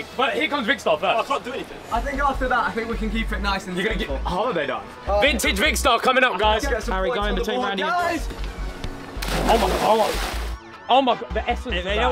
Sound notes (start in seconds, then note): 9.2 waters splashing